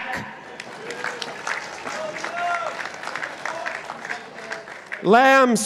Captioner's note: participants applauding